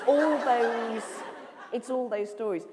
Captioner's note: laughter